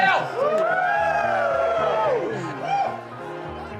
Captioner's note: cheering